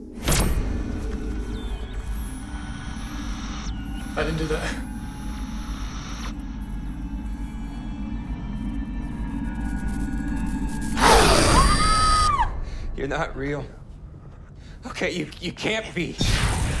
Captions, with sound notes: (static hisses) - I didn’t do that. (Heather screams) - You’re not real. Okay, you, you can’t be.